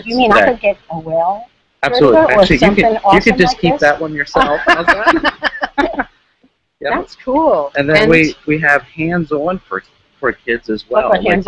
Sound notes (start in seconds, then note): 7.8 laughs